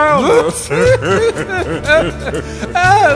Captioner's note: chuckles